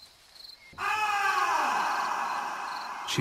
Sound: screaming

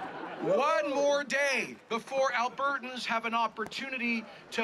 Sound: laughter

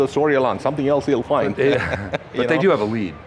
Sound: laughs

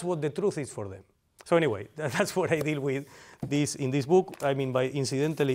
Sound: laughter

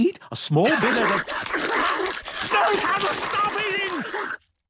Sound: munch! munch! munch!

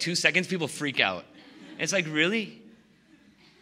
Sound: laughing

